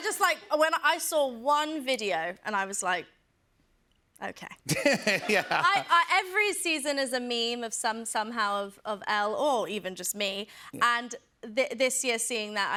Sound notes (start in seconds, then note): 4.7 laughs